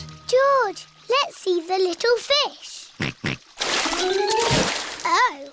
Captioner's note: snorts